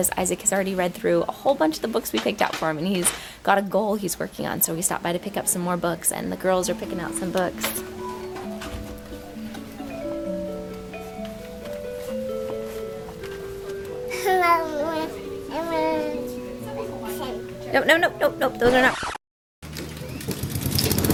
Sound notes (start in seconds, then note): 8.4 instrumental music; 14.1 babbles